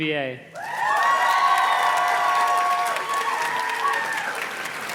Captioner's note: audience cheers and claps